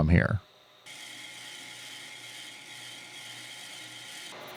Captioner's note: machine whirring